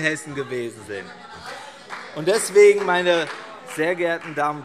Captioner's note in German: Beifall CDU - Zurufe SPD und DIE LINKE